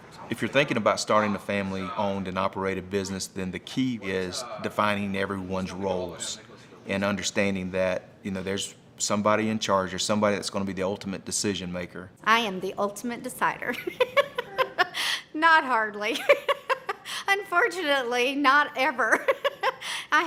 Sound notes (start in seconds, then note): 13.8 laughs